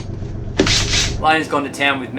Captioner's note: drill buzzing